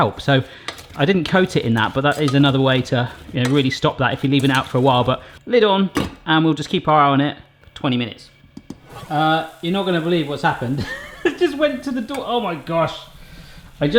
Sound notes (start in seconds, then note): 8.5 whooshing; 10.8 laughs